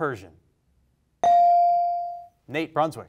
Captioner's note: bell rings